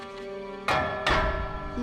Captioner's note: banging